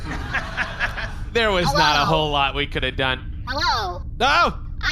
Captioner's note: in a robotic voice